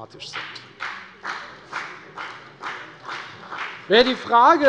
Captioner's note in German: Beifall bei der FDP